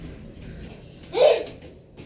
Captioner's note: children Groaning